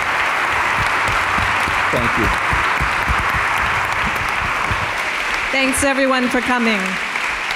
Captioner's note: applause